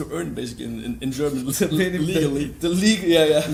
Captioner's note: laughs